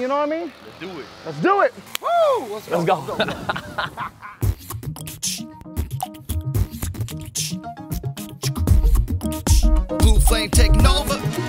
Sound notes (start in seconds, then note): 4.3 beatbox